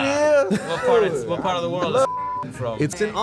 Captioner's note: beep